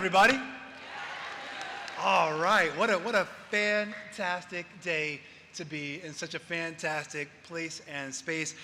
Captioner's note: applause